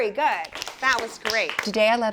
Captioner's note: crowd applauding